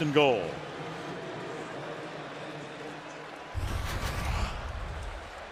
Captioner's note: pa announcement